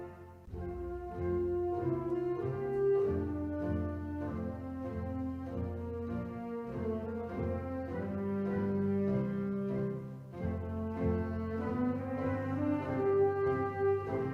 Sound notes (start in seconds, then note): none